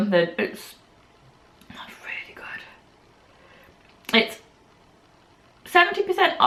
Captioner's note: whispering